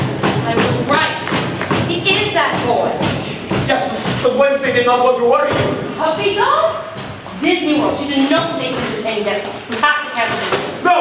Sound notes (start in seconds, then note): none